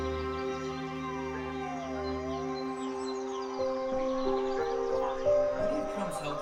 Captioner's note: siren roaring